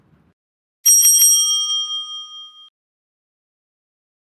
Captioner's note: bell rings